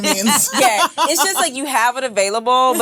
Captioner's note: laughs